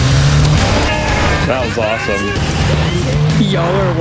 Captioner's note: group cheers